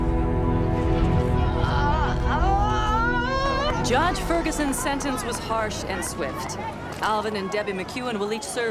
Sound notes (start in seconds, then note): 0.8 cries